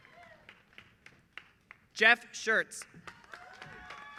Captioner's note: applause